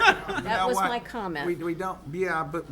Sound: council members laugh

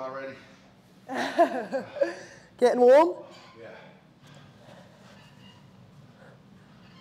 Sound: laugh

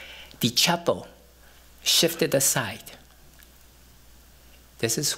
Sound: none

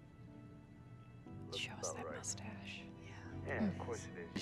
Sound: whipered

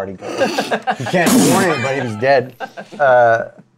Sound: laughs

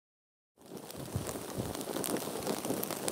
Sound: none

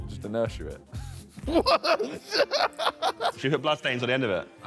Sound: laughs

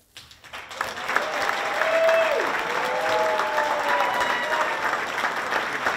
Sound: audience applauding and cheering

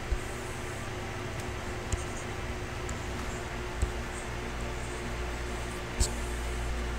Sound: faint techno music; computer mouse tapping

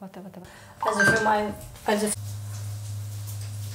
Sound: cell phone rings

